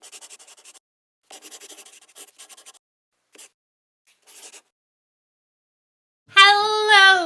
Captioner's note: the sound of a pen scratching. LOGO